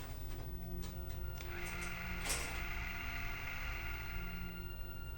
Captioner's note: TV static